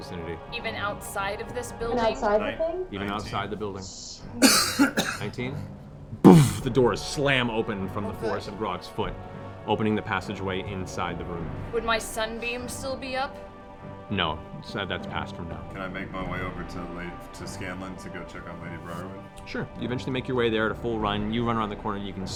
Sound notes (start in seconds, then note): 4.4 impact noise